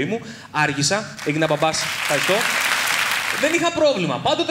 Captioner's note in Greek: χειροκρότημα